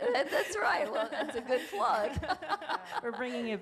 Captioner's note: laughing